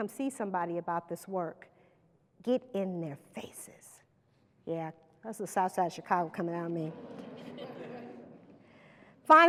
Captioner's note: laughter